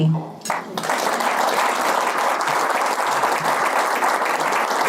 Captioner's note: audience applause